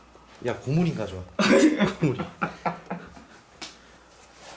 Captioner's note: laugh